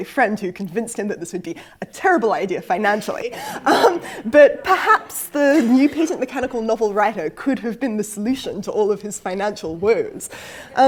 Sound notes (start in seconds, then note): 3.4 laugh